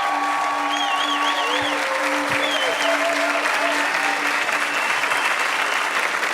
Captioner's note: audience clapping and cheering